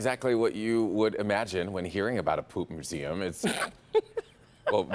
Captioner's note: laughter